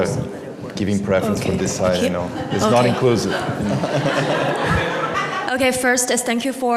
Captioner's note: laughter